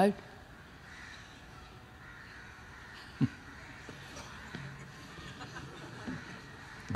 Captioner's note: laughs